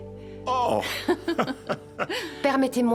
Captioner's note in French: rires